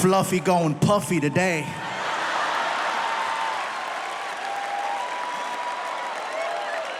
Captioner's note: audience laughs; audience applauding